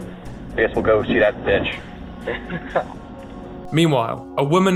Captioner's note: laughter